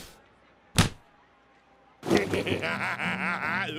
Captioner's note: splat